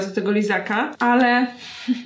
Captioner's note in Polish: śmiech